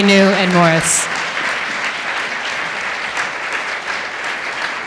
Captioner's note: audience applauding